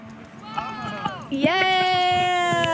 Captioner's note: slow intense music; hollering; cheering